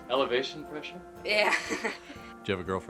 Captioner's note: laughs